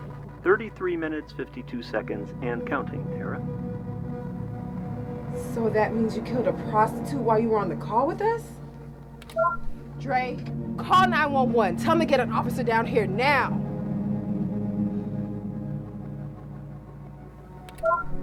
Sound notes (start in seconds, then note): 9.4 soundboard beeps; 16.4 tense menacing music